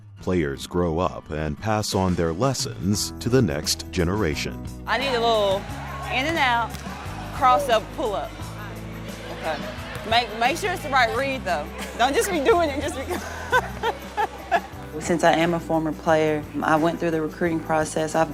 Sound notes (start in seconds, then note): 14.4 laughter